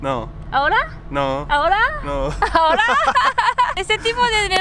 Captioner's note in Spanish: risas